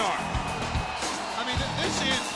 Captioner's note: crowd cheering